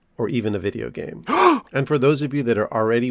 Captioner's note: gasp